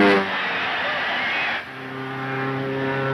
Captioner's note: audience cheering; plane engine whining